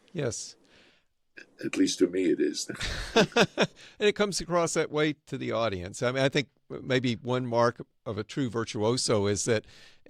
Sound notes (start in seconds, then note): 2.7 laughs